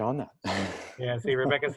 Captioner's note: laughter